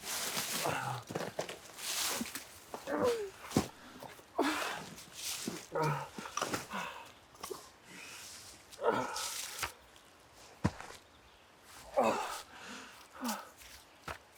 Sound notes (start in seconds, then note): 0.0 bag rustling; 3.0 Arawn groaning